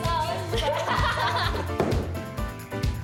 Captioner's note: laughs